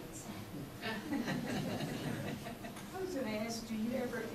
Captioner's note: audience laughs